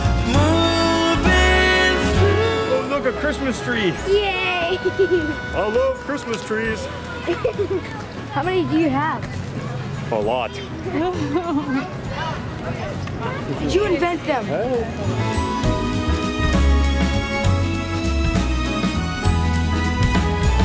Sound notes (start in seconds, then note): 10.9 laughing; 15.5 upbeat Christmas music